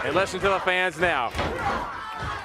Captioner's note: crowd cheering